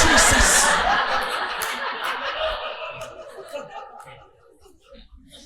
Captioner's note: audience laughing